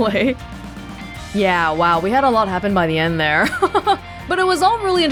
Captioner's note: chuckles